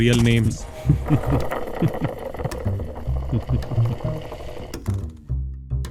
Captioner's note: suitcase trolley sound; cunning laugh